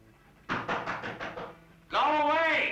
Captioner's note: knocking on door